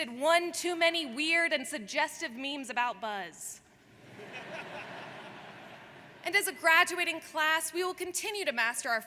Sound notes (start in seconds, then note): 4.0 audience laughs